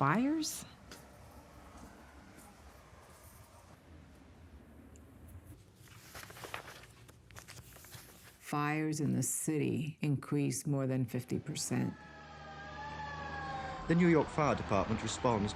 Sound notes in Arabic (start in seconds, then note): 11.3 صافرة الإنذار تدوي